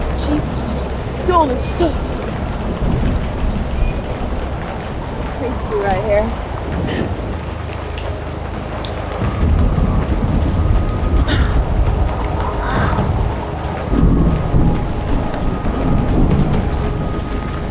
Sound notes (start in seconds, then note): 8.5 rain pattering